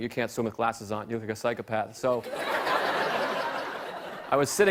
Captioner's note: laughter